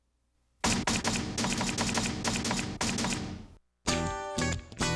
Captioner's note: logo squeaking and banging loudly; upbeat music